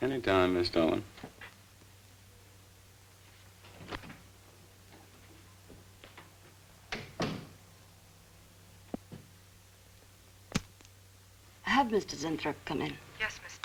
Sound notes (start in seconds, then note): 6.9 door shuts; 10.8 clicks